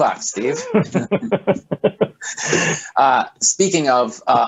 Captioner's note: laughing